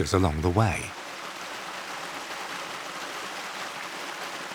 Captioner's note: water sloshes